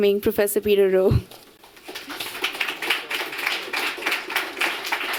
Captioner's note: applause